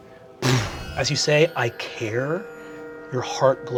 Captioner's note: sparkling